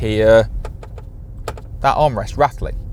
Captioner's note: tapping